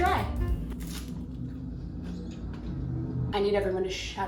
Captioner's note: breadstick crunching